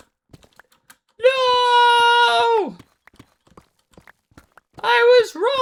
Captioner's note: screaming